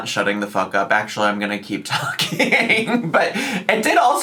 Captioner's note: laughs